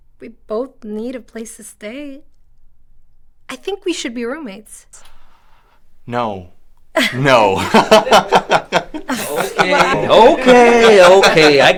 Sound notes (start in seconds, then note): 7.0 laughs; 7.6 Lucy laughs; 10.5 Patrick laughs